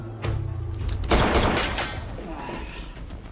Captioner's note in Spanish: Disparos